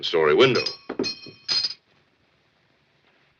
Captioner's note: dish clangs